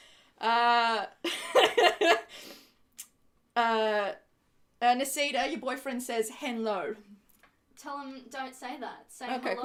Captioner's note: laughs